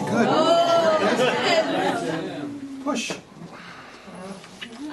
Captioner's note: laughter